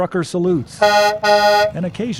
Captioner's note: horn honking